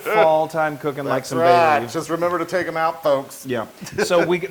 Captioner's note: laugh